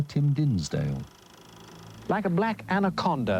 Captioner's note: projector whirring